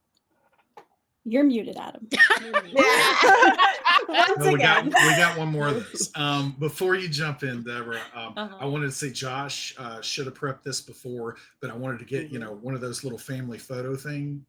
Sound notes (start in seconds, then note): 2.1 everyone laughs